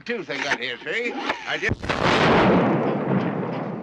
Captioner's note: explosion